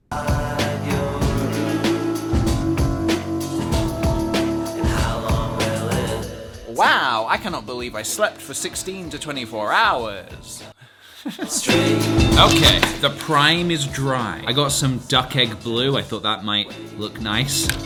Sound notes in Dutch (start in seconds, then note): 6.7 sarcasme; 11.1 lacht